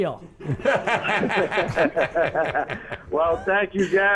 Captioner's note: group laughter